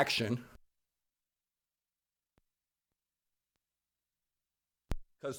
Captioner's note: break in Audio